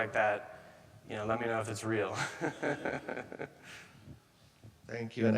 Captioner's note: laughing